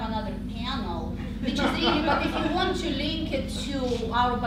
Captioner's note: laughter